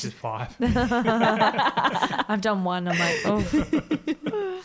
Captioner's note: laughs